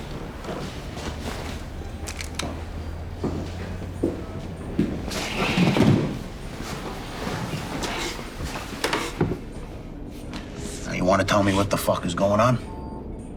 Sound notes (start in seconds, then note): 0.7 clothing rustling; 2.0 gun clicking; 3.5 footsteps clicking; 5.5 chair sliding